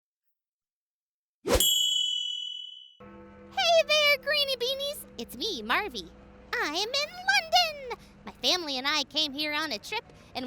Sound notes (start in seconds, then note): 1.6 bell rings; 3.4 clock bell strikes